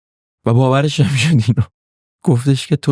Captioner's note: laughs